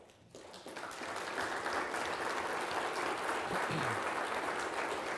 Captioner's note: people applauding